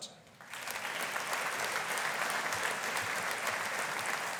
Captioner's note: audience applauding